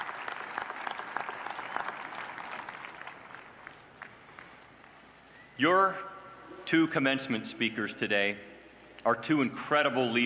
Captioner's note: applause